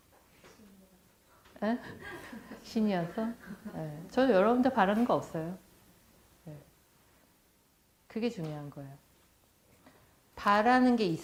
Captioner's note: laughs